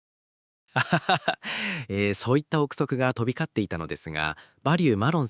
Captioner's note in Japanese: 笑い